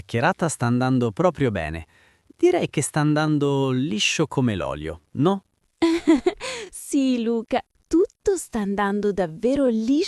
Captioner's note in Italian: risate